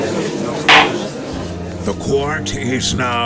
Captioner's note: gallery chattering; gavel slams!